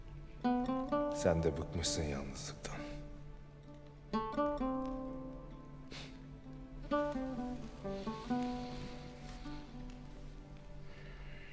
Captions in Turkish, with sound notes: ...sen de bıkmışsın yalnızlıktan. (Müzik - Duygusal) (Alev sesi)